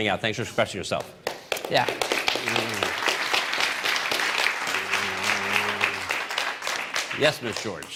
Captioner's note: applause